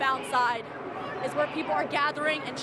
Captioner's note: none